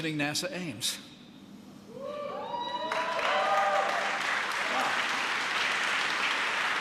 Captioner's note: applause